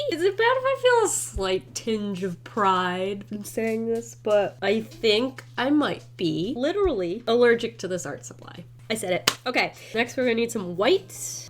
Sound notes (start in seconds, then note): 9.2 claps